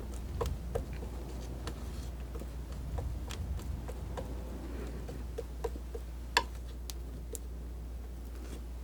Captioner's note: scratching